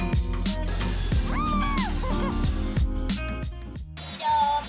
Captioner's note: screams over music